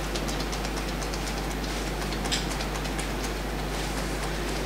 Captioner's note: fingers tapping